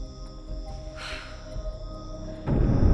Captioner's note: sighs